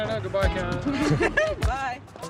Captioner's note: laughing